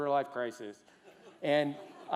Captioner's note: laughter